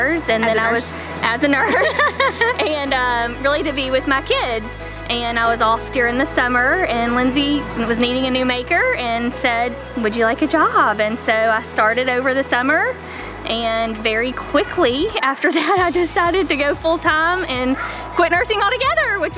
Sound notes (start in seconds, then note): 1.5 laughs